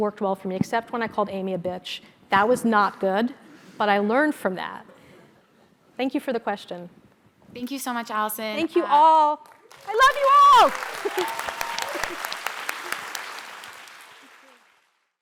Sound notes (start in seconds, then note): 9.4 applause